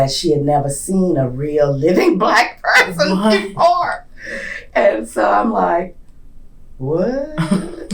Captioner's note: laughs